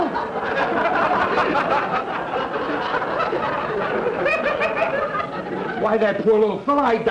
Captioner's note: audience laughter